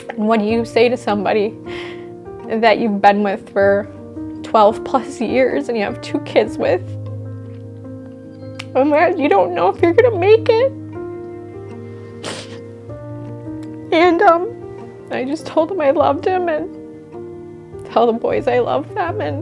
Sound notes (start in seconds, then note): 7.1 gentle music; 10.9 gentle music; 12.2 sobbing; 12.3 gentle music